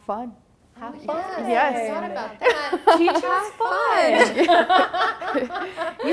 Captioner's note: laugher; all laughing